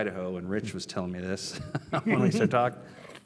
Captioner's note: laugh